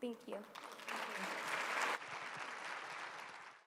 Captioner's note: applause